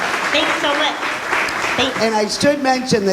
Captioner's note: audience applauds